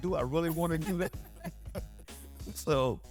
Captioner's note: laugh